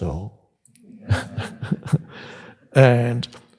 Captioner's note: Eckhart laughs